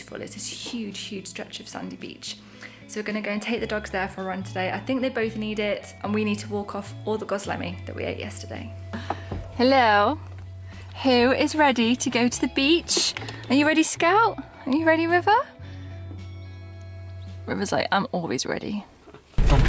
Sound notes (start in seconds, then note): none